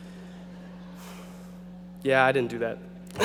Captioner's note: audience laughing